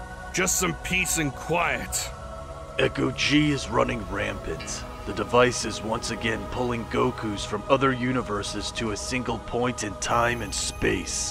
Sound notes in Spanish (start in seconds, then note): none